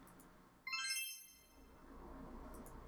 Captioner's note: game sounds end